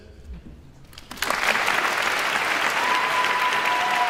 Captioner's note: audience applauds